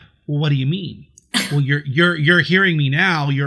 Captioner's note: scoffs